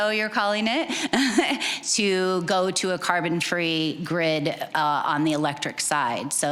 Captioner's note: chuckling